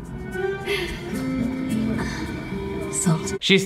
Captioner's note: chuckles